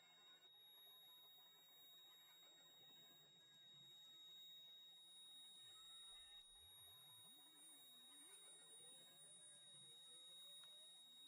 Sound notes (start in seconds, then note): 2.6 high pitched humming